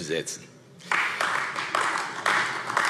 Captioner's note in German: Beifall AfD